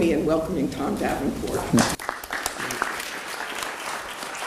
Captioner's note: audience clapping